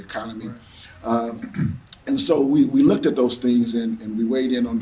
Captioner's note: clears throat